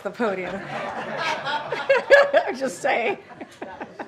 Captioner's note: laughter